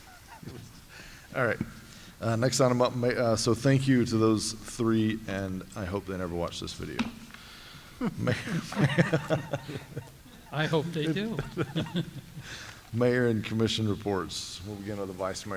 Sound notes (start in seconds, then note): 11.2 laughter